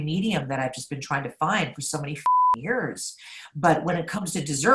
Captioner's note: beep